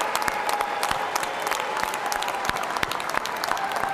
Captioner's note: cheers and applause